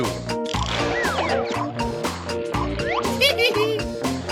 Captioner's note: rattling; laughing